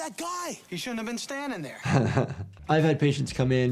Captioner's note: doctor laughs